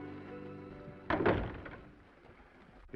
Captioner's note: door latches